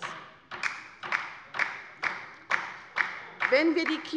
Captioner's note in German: Beifall bei der LINKEN